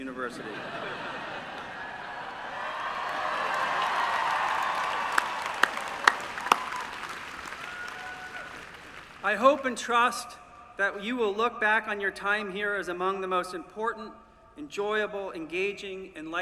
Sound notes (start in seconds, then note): 0.2 laughter; 3.4 applause